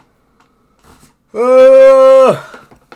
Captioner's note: yawning